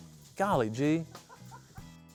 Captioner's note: laughter